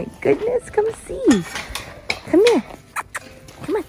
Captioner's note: metal fence clanging; smacking